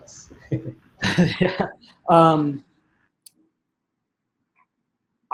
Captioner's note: speaker laughing